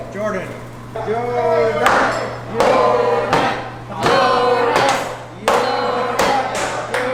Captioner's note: Chanting "Jordan"